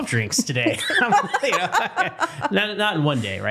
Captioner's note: laughter